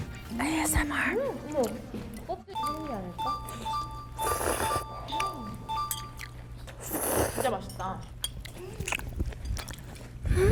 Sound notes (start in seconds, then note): 4.2 slurp; 6.8 slurp